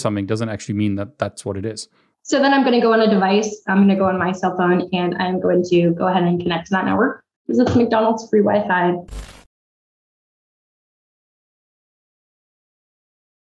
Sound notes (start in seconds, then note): 9.1 static buzzes